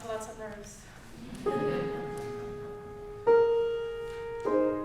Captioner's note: audience chuckling